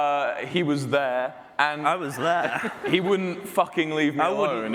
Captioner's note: audience response